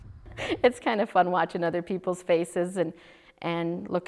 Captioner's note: laughing